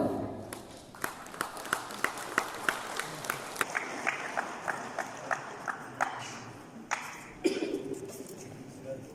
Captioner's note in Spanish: aplausos del publico